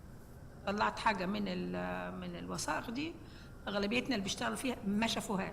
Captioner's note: speaking foreign language